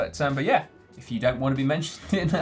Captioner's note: laughs